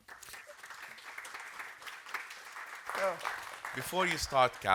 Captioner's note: audience applauding